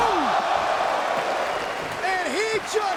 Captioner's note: spectators exclaiming